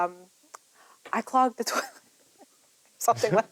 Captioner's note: laughs